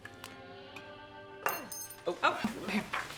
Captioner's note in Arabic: سقوط الملعقة